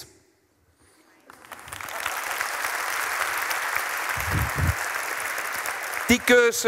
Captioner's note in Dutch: het publiek applaudisseert